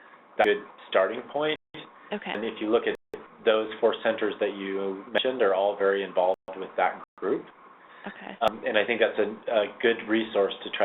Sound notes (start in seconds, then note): 1.6 voiceover